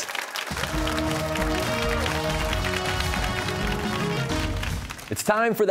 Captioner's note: cheers and applause